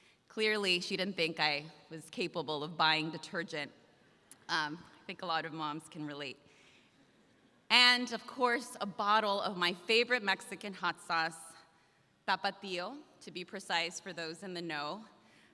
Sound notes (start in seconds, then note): none